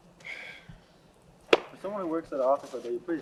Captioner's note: sighs